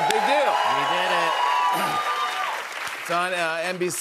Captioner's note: cheers and applause